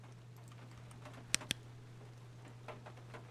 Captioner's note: flashlight Clicks On